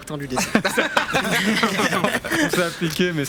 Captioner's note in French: rires